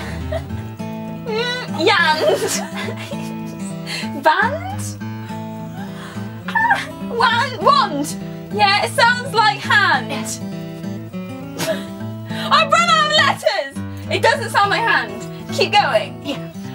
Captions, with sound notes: Mm..yand Vanned? Wan- wand! Yeah it sounds like hand Yeah (laughs) I've run out of letters! It doesn't sound like hand? Keep going? Yeah